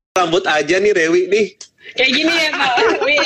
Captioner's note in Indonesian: Tertawa